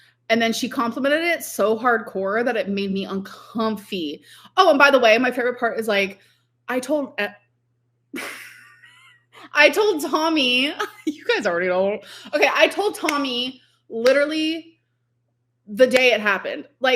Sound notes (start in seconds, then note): 8.1 laughs